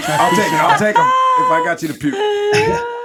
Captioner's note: laughing